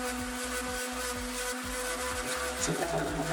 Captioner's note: machine whirring